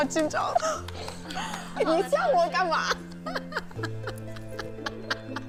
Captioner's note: class applauding; speaking foreign language